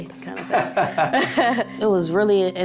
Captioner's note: laughing